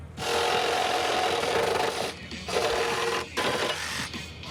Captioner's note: loud drilling